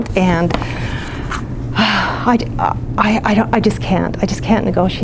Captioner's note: sighs